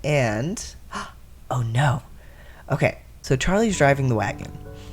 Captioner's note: gasp